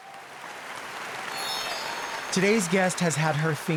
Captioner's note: audience applauds